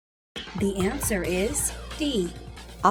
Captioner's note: female announcer speaking